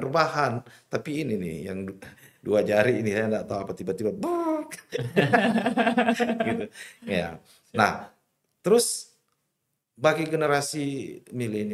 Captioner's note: laughs